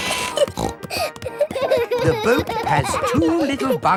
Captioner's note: snorting; kids giggling